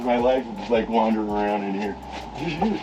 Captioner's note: chuckle